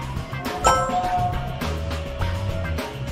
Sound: win tone chiming; anticipatory music playing

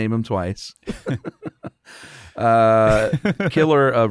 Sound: chuckling

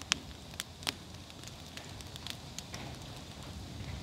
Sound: crackling

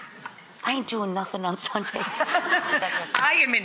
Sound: laughs

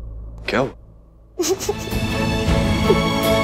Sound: crying

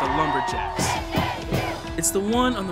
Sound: chanting

